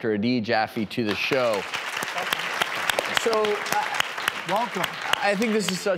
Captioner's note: crowd applauding